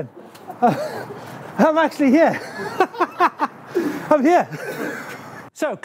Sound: laughing

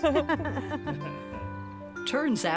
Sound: all laughing

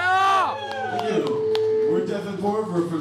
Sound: cheering

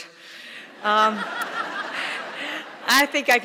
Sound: audience laughing

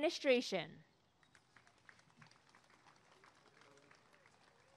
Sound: applause and cheering

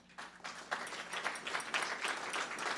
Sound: applause

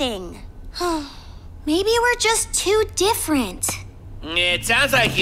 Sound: sighs

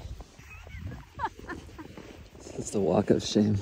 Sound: chuckling

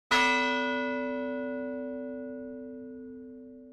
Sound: bell ringing

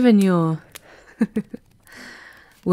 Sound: she snickers

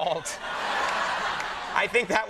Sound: laughter

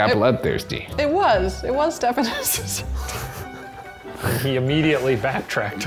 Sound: laughs

